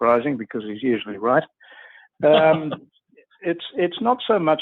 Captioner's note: laughs